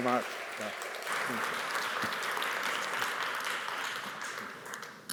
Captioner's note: audience applauds